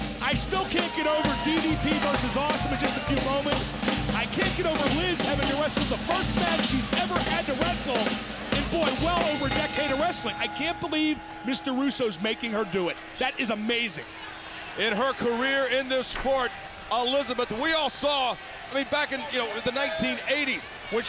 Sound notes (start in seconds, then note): 9.1 bell dings